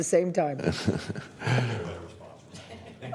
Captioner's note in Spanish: risas